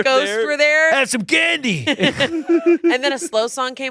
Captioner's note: laughs